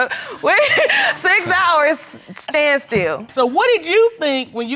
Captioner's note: laughs